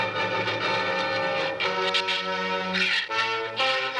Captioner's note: shrews chattering